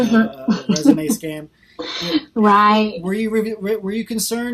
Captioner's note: laughs